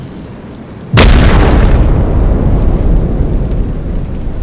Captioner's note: explosion